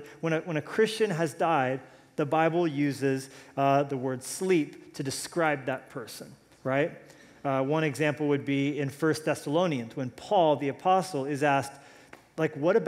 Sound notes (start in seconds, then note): none